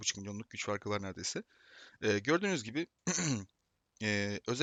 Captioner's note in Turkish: boğazını temizler